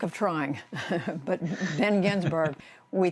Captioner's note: laughter